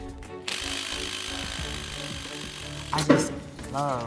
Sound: drill whirring

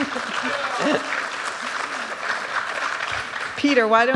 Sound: applause

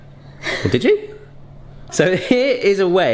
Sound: laughing

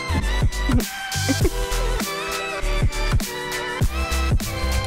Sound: chuckles

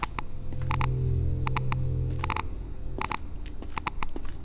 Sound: geiger counter clicks

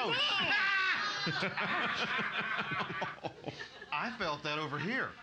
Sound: loudly laughing

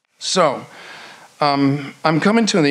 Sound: none

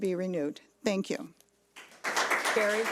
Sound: audience clapping

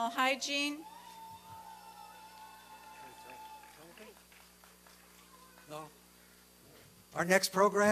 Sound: applause and cheering

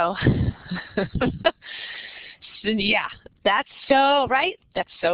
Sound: laughs

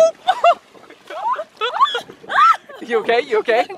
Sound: screaming

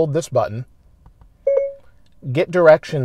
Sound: chime sound from the stereo

